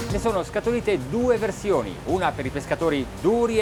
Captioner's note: speaking in foreign language